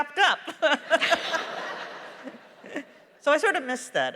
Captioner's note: laughter; laughs